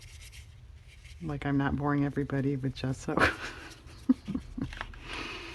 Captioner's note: laughs